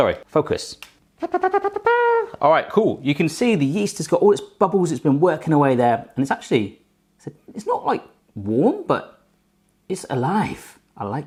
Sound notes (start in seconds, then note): 1.2 mimics trumpet blowing